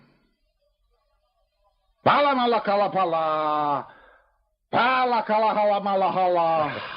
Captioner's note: chanting gibberish